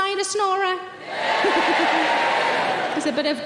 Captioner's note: audience cheering